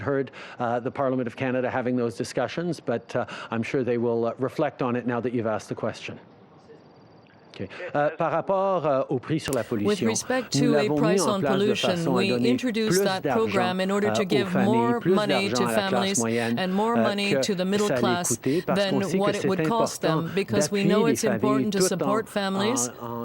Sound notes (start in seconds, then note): 13.9 speaking French